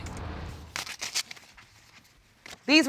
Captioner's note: shuffling of papers